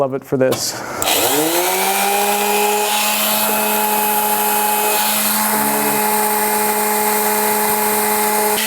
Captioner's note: sander sound